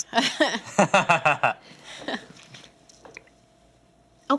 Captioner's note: laughs